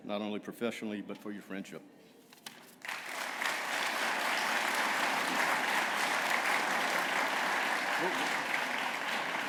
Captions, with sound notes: not only professionally, but for your friendship. [APPLAUSE]